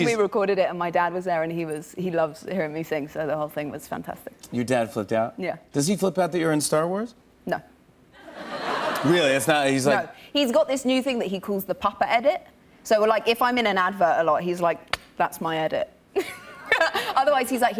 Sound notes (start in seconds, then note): 8.2 laughter; 15.2 laughs